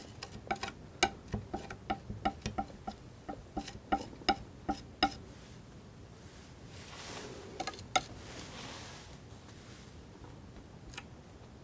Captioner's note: tapping